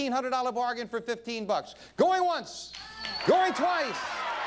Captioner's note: audience cheering